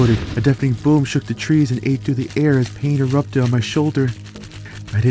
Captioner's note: boom